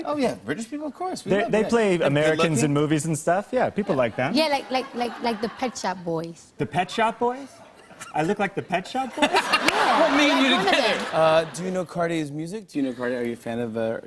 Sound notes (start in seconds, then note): 7.7 laughter